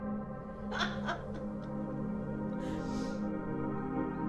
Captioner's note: Sharon laughs